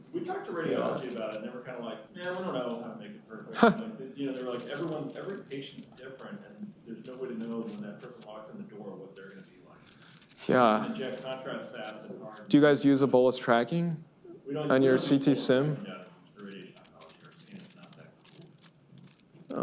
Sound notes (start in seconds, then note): 3.5 laughs